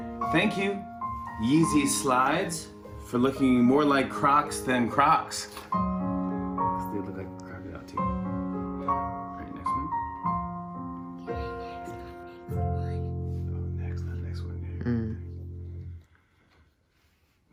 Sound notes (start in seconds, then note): 11.0 whispering